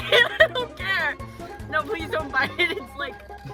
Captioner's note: nervous laughter